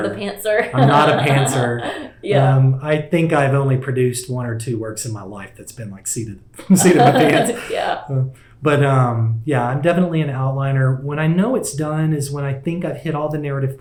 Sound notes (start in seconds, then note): 6.6 laughter